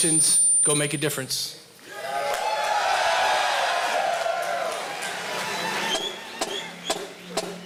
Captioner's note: applause